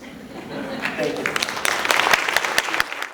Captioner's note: applause